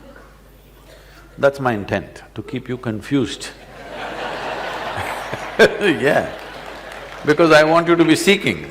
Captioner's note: laughter/Applause